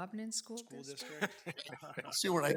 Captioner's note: people chuckle